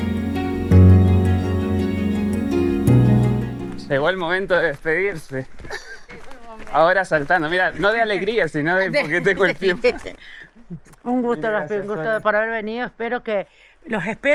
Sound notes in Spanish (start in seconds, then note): 5.6 risas